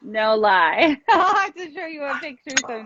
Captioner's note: laughing